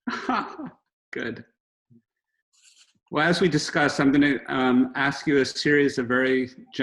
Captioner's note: laughs